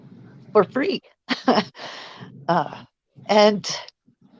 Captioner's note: chuckles